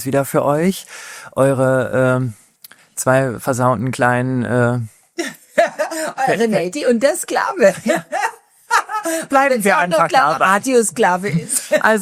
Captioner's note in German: gelächter